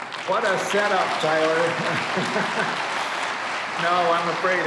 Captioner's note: applause